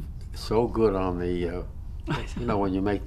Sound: laughs

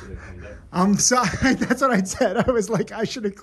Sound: laughs

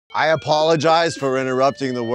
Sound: alarm blaring

